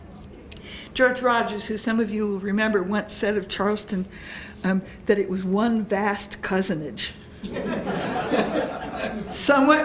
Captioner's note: laughter